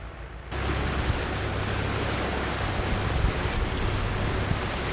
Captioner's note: boat engine whirs